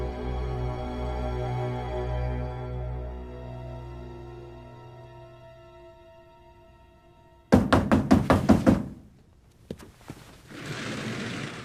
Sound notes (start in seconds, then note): 7.5 door banging